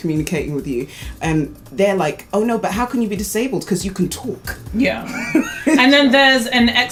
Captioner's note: laughs